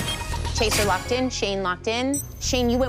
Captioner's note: chime, chime